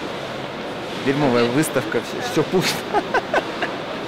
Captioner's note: laughs